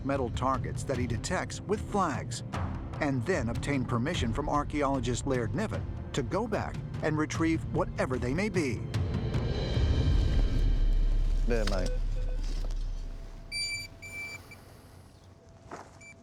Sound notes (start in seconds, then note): 11.5 beeping